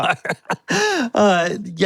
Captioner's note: both laughing